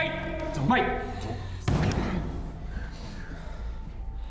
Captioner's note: bangs wall